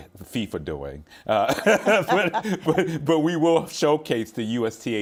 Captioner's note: laughing